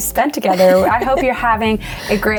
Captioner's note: chuckling